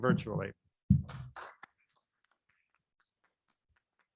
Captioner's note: applauding